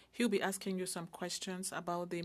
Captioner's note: speaking French